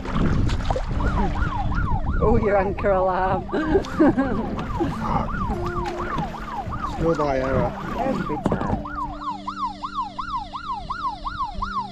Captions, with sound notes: (Alarm) oh you're anchor alarm Schoolboy error every time (Alarm louder)